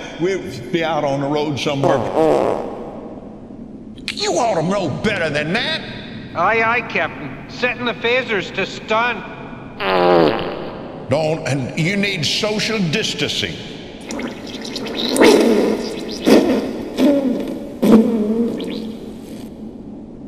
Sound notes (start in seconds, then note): 1.8 fart; 9.8 fart